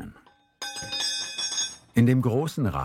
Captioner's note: clinking